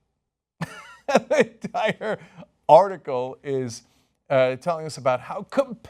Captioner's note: laughter